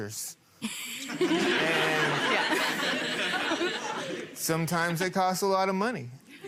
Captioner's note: people laughing